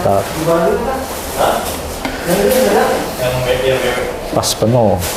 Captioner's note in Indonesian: suara tinta dituang